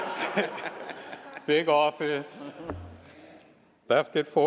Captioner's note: laughter